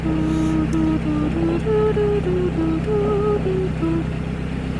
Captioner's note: humming theme from Jonathan Creek